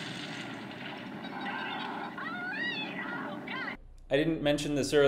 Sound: explosion; people Cheering

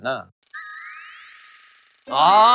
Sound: loading sound effect

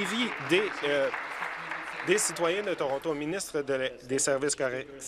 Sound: applause

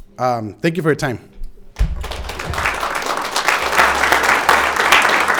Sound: audience applauding

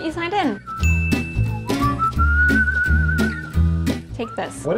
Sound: upbeat strumming; whistling; ding

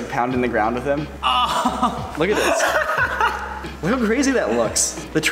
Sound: exclaims, laughter

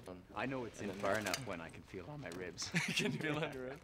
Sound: laughs

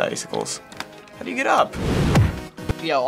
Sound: testily

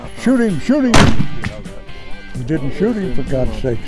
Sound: gunshot

